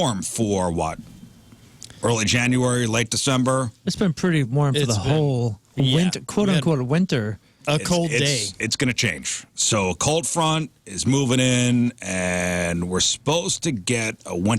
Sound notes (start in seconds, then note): none